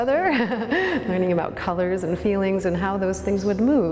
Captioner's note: laughs